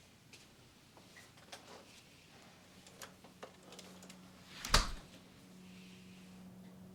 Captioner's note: door thumping; footsteps thumping